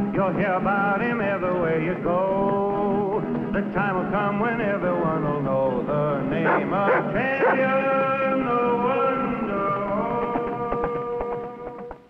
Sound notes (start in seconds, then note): 9.8 Rebel barking